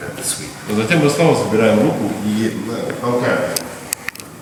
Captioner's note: speaking in a foreign language